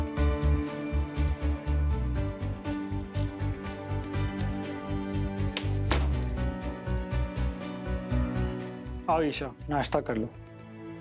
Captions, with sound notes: [door closes] Come, Isha. Have breakfast.